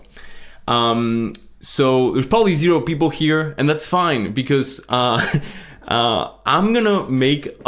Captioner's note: laughs